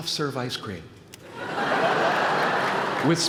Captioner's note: laughter